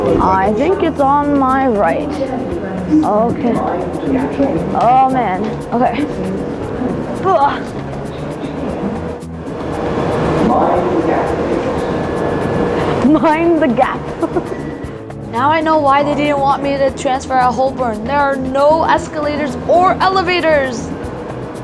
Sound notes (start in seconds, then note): 10.2 metro Announcement; 13.9 chuckles